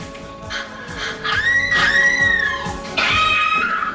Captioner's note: screaming